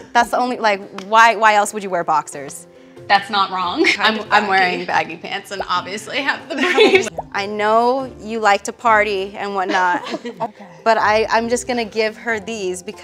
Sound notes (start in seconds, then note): 6.6 laughs